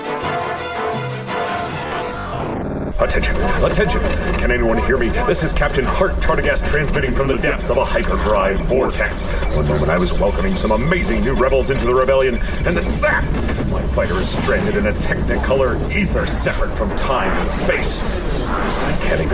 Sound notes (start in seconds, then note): 1.4 warning alarms can be heard; 1.9 sighs; 3.0 ad transition music